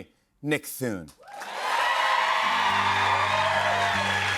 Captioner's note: cheers and applause